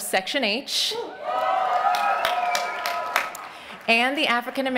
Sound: cheering

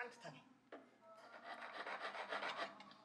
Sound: grating

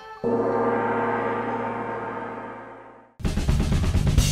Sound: asian music; gong ringing; upbeat music

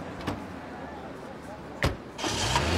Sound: engine starts

